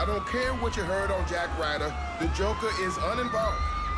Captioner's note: sirens wail, crowd screaming